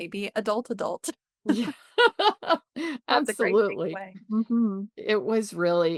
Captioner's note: laughs